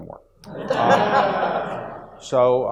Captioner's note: audience laughs